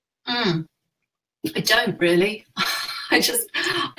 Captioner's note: laughs